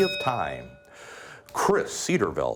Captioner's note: bell ringing